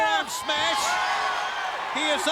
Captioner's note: crowd cheering